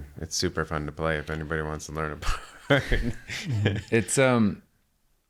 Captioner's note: laughs